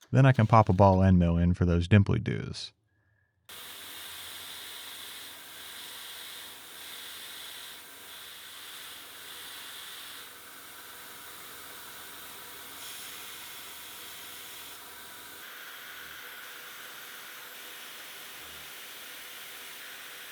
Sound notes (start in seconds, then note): 3.7 machine whirring; 13.7 machine whirring continues